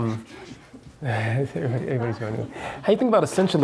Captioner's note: chuckles